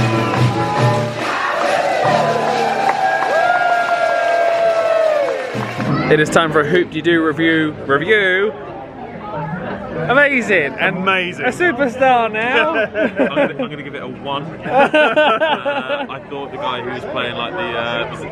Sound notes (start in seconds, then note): 0.0 audience cheering and applauding